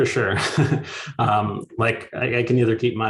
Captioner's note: both chuckles